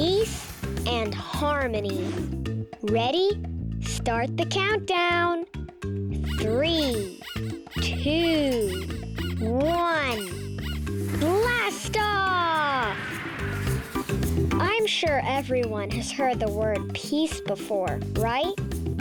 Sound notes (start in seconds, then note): 7.1 pig squeaking; 10.7 rocket hissing